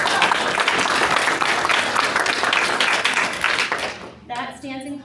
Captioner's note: applause